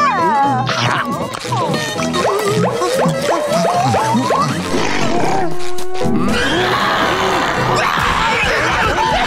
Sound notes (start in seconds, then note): 6.1 screaming; 6.2 growling